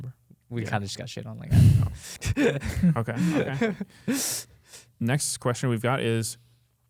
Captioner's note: laughs